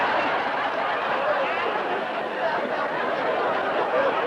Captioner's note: laughter